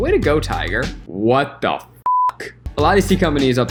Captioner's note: beep